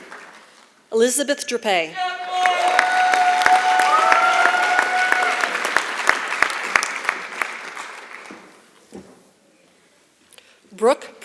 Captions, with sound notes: Elizabeth Drippe. [ Applause ] Brooke Propson.